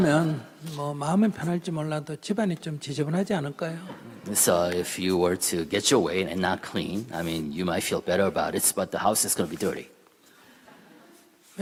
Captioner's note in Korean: 청중 웃음